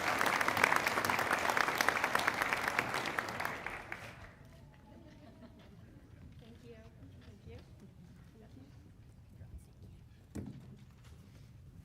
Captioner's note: applause